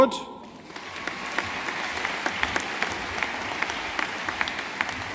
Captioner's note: audience applauding